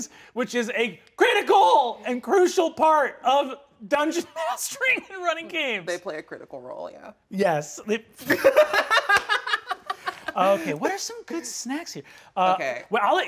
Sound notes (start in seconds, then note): 8.2 laughing